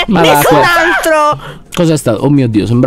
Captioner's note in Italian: urla